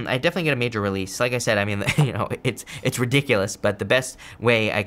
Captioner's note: chuckles